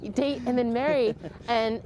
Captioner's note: laughter